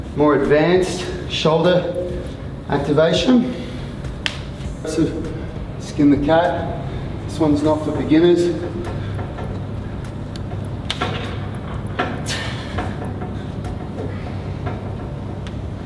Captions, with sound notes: more advanced shoulder activation. See the cap, this one's not for beginners. (grunting)